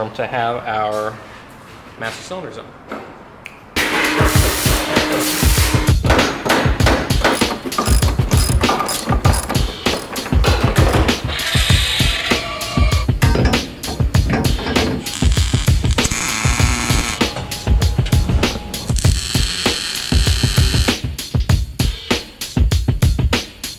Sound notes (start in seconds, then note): 3.9 metal welding; 6.1 hammer hammering metal; 7.7 socket wrench turning; 11.6 grinder grinding metal; 15.0 sparks buzzing; 21.1 gentle music